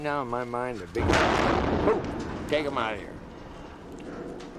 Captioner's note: loud bang